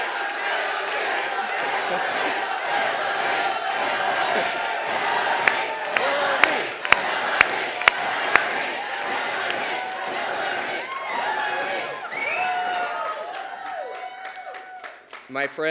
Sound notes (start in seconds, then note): 0.0 chants of “Hillary, Hillary”; 0.0 cheering; 0.5 clapping